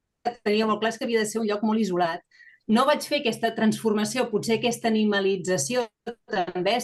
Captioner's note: continues speaking in Catalan